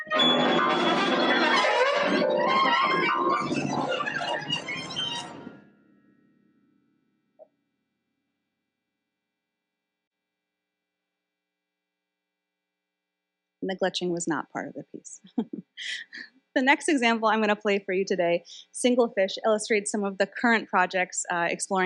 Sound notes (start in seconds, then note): 3.2 dissonant music continues; 15.2 laughs